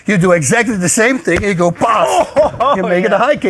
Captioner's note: laughs